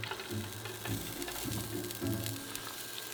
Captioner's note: sizzling